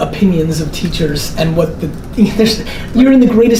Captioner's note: laughs